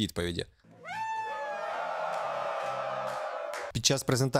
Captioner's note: applause